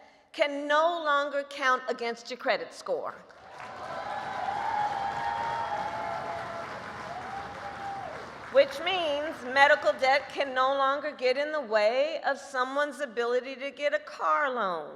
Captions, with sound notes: can no longer count against your credit score -- (applause) -- which means medical debt can no longer get in the way of someone's ability to get a car loan,